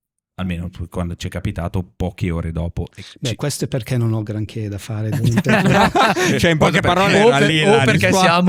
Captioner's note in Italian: laughter